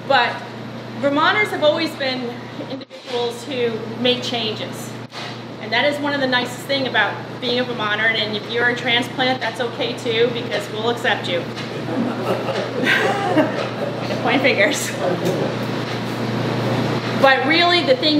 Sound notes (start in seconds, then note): 11.8 group laughing